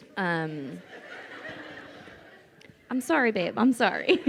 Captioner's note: crowd laughing